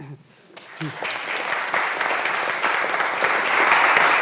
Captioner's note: audience applauds